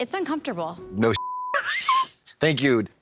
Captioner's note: beep